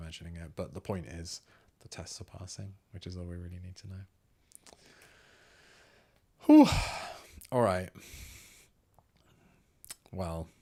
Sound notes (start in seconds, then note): none